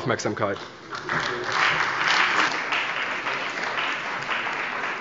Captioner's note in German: Beifall bei der CDU und dem BÜNDNIS 90/DIE GRÜNEN